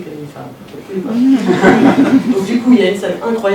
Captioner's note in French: rires